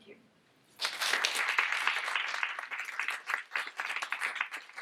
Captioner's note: audience applauds